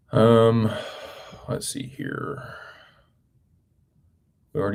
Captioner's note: sighs